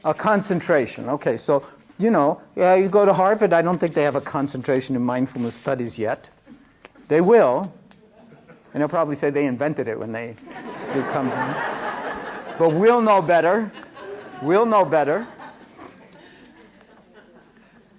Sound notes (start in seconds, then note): 12.1 laughter